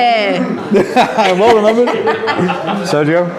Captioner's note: laughs